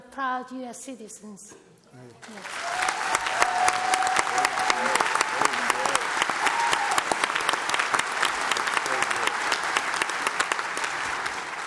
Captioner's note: applause